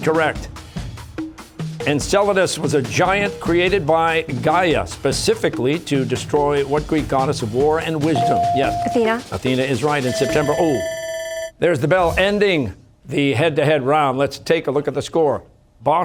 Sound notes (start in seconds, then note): 10.8 bell ringing